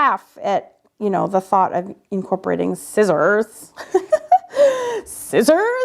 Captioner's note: laughs